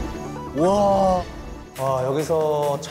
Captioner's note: exclaiming